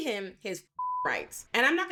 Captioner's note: beep